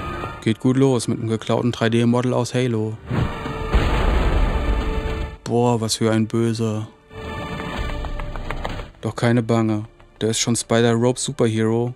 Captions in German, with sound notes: Geht gut los, mit einem geklauten 3D-Model aus Halo. (Dumpfe Explosionsgeräusche) Boah, was für ein Böser. (Musik endet, Schrittgetrappel) Doch keine Bange, da ist schon Spider Rope Super Hero,